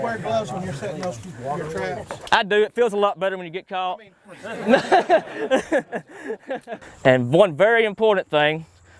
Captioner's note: laughter